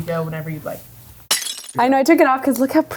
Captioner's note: glass shattering